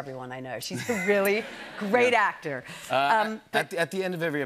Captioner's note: laughter